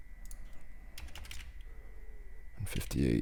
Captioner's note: typing